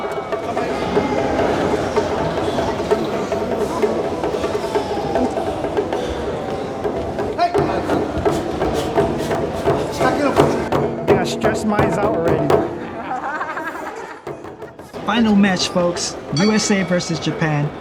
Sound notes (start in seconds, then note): 10.3 speaking in foreign language; 14.6 laughing